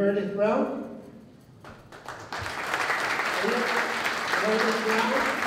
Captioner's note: applause